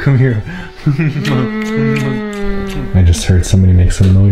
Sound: kisses

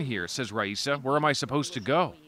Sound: speaking alternate language

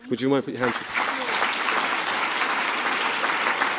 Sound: applause

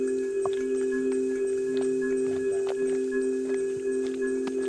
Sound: footsteps clacking

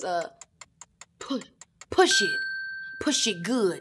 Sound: ping

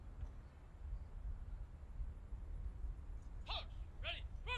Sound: soldier shouting commands

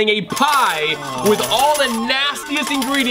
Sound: slot machine bells

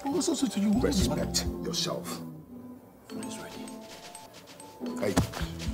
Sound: jerry mumbling

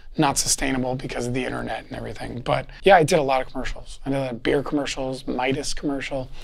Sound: none

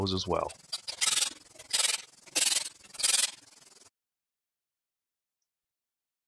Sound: power tool noise; silence

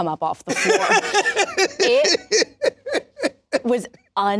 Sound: laughs

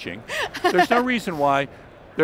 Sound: laughs

